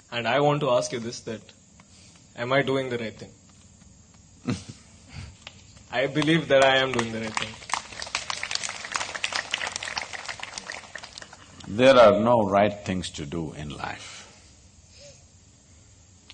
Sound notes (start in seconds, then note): 4.4 Sadhguru Laughs; 10.2 applause